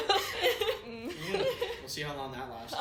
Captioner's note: group laughter